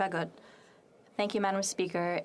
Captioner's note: speaking French